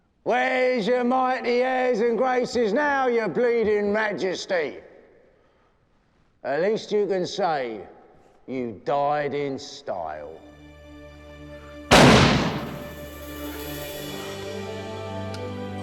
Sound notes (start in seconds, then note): 11.9 gun firing; 13.6 light melodic orchestral music